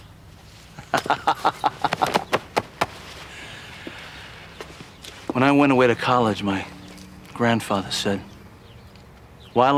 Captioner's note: laughs